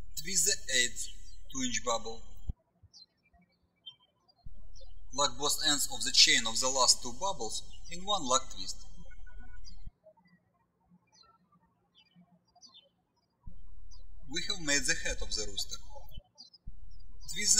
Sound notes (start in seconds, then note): 3.8 birds chirping